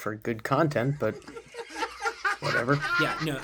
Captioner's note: man laughing